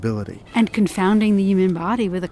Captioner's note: voiceover